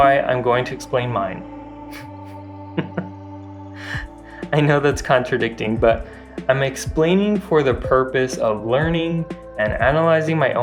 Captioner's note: laugh